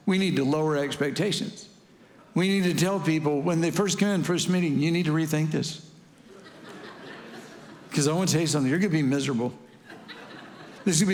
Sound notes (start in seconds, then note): 6.2 congregation laughing